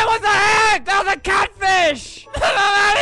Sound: haha

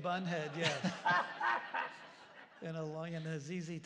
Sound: laughter

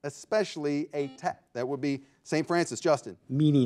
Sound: buzzer beeping

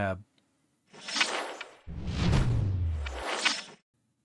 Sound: logo whooshing

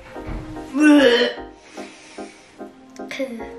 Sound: gags

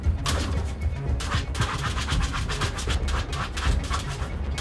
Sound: Scratch

